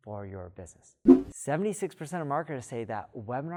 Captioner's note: air whooshing